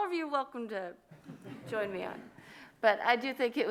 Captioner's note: audience laughs